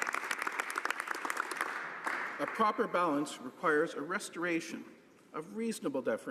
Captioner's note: some Applause